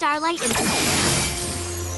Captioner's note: zap